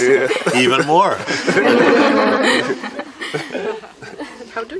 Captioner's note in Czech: smích